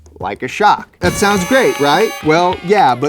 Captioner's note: crowd